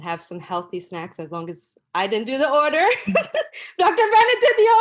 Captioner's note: laughter